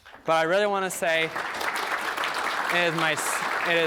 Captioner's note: audience applauding